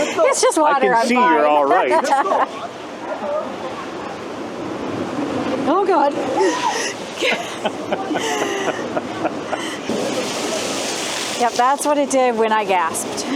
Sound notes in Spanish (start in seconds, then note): 7.1 Risas